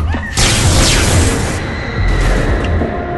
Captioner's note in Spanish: dos disparos más de blaster; mujer gritando y cayendo